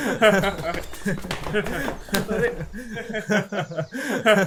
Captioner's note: boys laugh